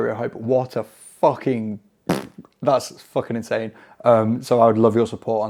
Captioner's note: blowing raspberry